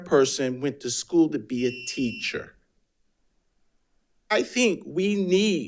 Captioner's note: alarm chiming